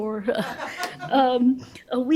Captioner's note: laughter